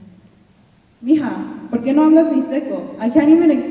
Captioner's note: speaking in Spanish